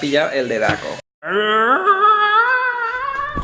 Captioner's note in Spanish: Grito galletil